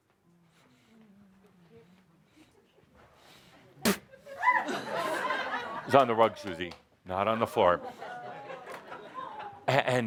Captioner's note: Adamus spits